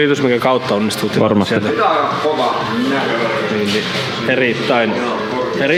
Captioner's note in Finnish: taustapuhetta